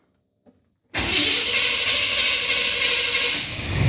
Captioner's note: engine Revving